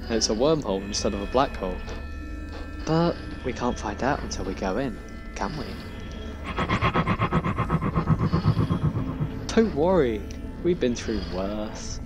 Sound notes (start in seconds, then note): 6.0 The Tardis made an unsure noise